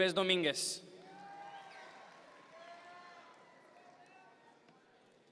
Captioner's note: audience members cheer